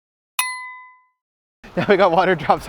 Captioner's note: ding